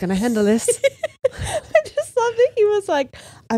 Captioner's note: laughs